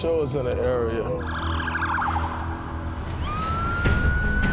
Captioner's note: siren wailing